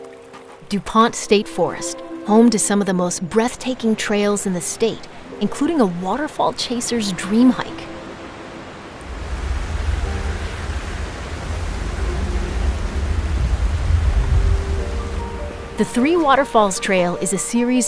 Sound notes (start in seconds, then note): 10.3 water rushing